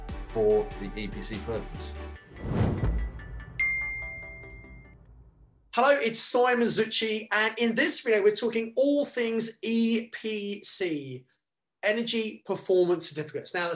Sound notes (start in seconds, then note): 3.1 bell rings